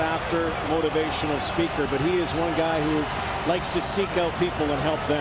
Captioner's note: cheering